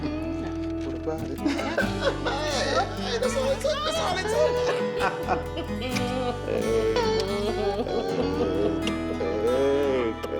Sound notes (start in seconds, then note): 2.0 laughs; 4.9 both laughing